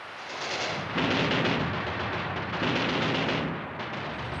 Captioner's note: gun fires